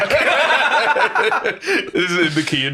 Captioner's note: all laughing